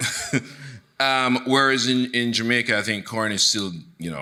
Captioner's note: chuckling; chuckles